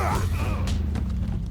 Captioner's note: men grunting